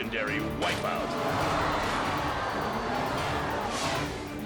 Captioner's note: audience gawking